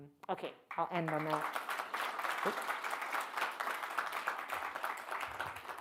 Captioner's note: audience clapping